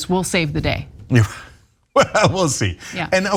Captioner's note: laugh